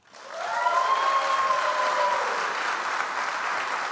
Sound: audience applauds

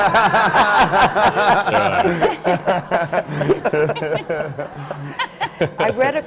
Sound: laughter

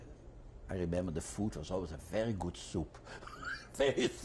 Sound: laughs

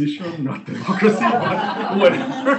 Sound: laughing

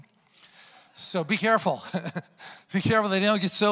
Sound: laughs

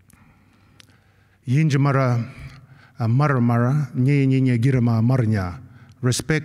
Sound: non-english speech

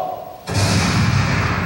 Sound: gunshot

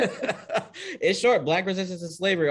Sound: laughing

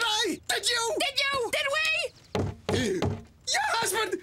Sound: <i>knock at door</i>

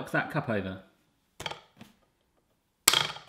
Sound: taps

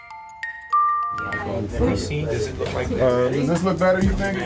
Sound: chatter continues

